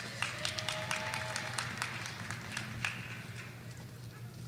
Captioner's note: audience applauding